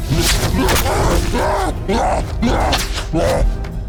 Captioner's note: grunting